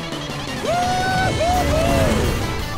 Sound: cheering

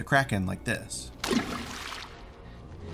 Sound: splash

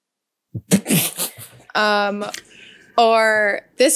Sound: laughing

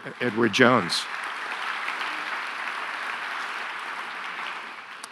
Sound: audience applauding

